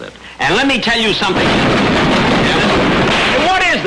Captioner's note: loud rumbling